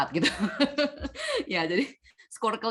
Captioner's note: laughs